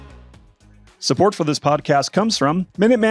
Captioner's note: upbeat music; voiceover